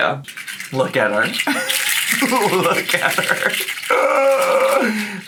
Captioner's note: slug rattling